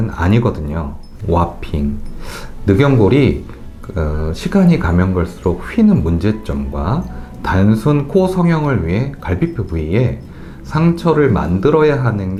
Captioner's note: warping